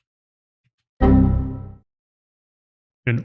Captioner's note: computer error sound